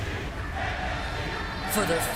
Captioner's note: fans chanting